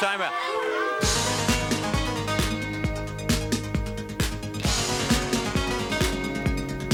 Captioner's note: crowd clamoring; upbeat music